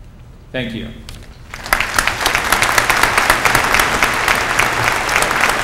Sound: applause

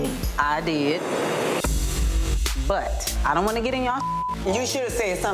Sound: beep

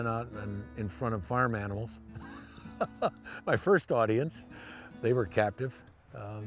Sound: laugh

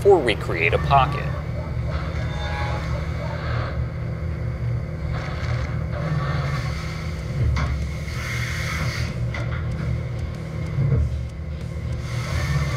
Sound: machining noises

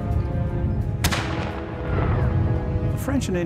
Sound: gunshot

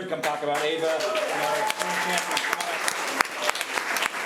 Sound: applause

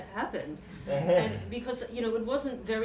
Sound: chuckling

